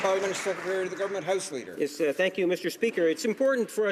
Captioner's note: some Applause